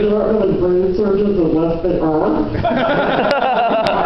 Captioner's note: laughter